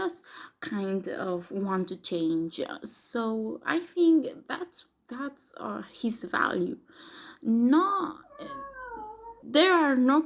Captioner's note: gato maullando